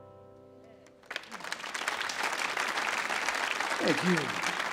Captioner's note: audience applauds